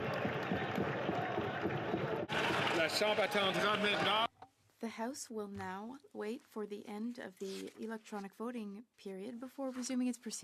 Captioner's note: speaking French